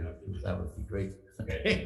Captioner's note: laughing